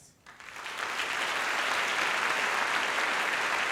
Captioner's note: applause